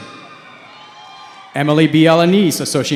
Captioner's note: cheering